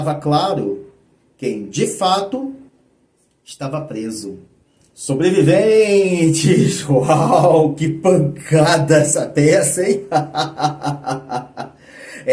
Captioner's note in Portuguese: risadas